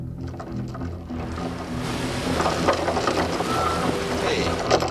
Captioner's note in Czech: chrastí řetězem